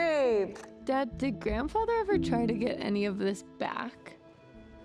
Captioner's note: phone call